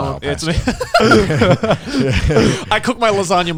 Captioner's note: speakers laughing